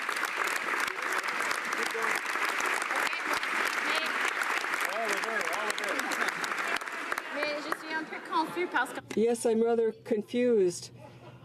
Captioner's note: applause